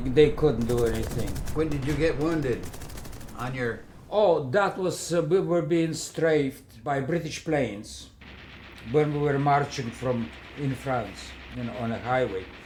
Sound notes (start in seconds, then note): 0.0 battle sounds; 8.2 machine guns